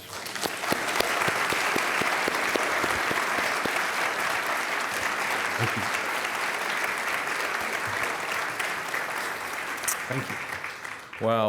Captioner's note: applause